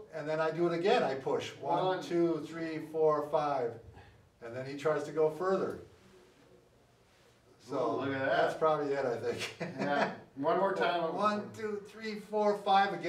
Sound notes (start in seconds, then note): 9.3 laughs